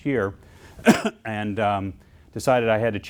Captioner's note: coughs